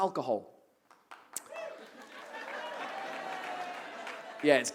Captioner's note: audience whoops an cheers